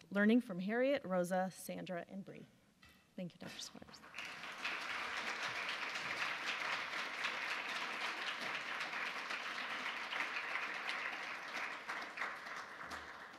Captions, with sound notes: Learning from Harriet, Rosa, Sandra, and Bree". Thank you, Dr. Squires. (audience applause)